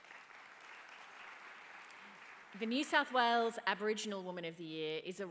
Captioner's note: applause